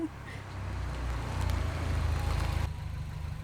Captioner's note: laughing; car approaching